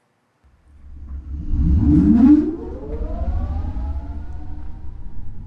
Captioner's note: airplane engine roaring